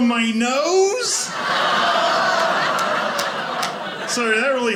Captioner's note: audience laughing